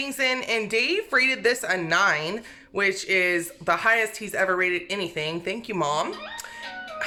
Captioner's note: phone rings